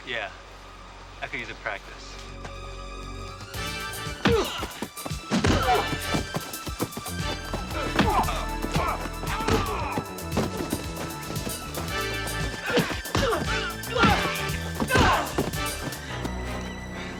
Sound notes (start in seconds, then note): 3.1 dramatic music; 4.9 body thudding; 4.9 men groaning